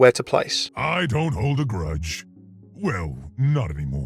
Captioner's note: voiceover